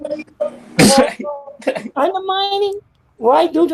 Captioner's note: chuckles